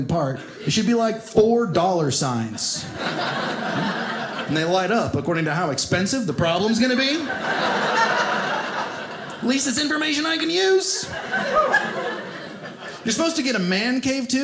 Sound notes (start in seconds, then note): 2.6 audience laughing; 6.7 audience laughing